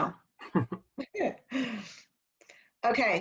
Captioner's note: laughter